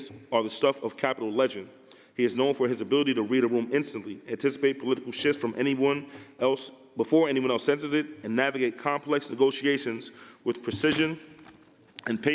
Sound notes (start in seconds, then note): none